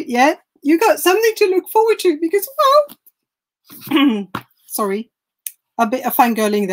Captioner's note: clears throat